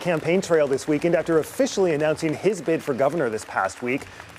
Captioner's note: applause and cheering